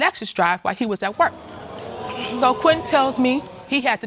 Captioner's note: audience exclaiming